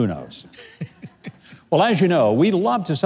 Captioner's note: laughs